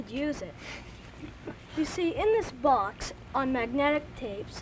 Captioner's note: chuckles